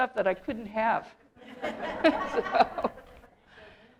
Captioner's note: audience laughter